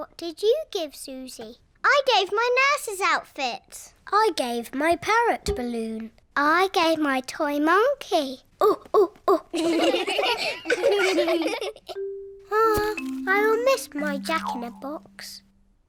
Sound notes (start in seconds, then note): 9.4 children laughing; 9.5 all laugh